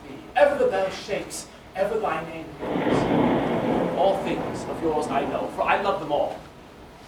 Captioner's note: thunder